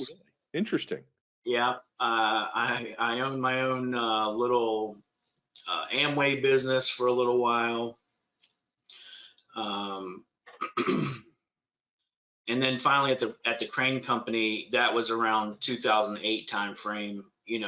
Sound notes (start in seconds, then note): 10.5 clears throat